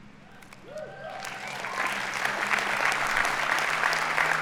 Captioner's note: audience applauding